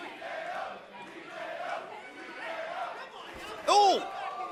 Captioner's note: fans chanting